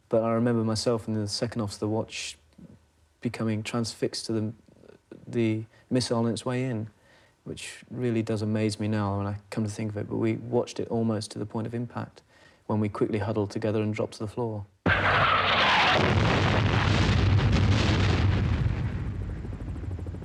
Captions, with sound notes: But I remember myself and the second officer of the watch becoming transfixed to the missile on it's way in, which really does amaze me now when I come to think of it. But we watched it almost to the point of impact when we quickly huddled together and dropped to the floor. (missile exploding)